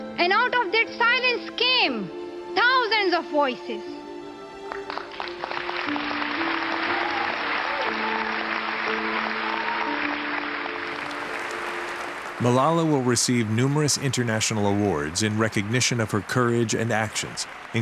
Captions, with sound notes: And out of that silence came thousands of voices. [applause, cheers] narrator: Malala will receive numerous international awards in recognition of her courage and actions,